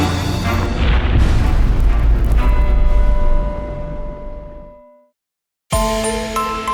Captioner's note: impact